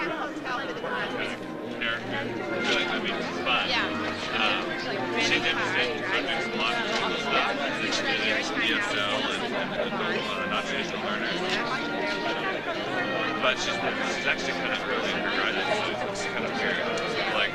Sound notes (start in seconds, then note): 1.1 overlapping chatter; 1.4 slow baroque music